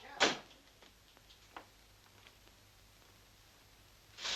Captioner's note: door thuds